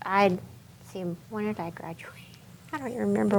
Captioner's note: chuckles